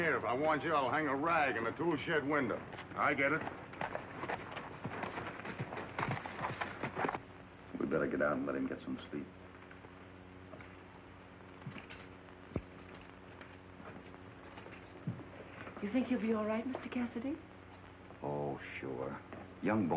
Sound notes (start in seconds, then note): 4.2 horses trotting; 11.5 spurs jingling